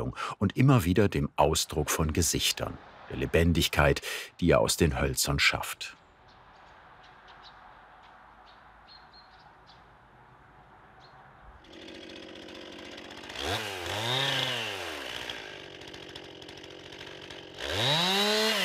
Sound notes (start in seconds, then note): 8.4 distant birdsong; 11.6 sounds of chainsaws